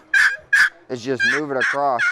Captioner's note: turkey sounds